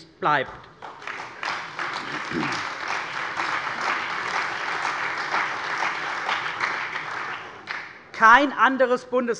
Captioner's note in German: Beifall bei der CDU und dem BÜNDNIS 90/DIE GRÜNEN